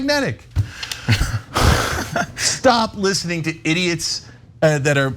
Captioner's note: laugh